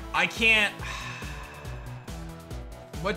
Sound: sighs

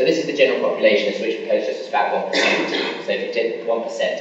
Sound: coughing masks speaker

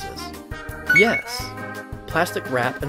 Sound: beeps

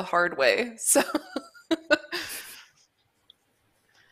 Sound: laughs

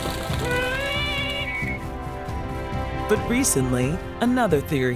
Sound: bird cawing

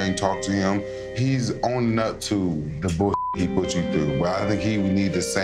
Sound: beep

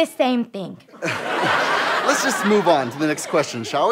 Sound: audience laughter

